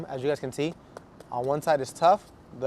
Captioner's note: knuckles rapping